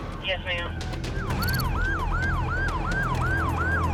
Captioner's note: siren wailing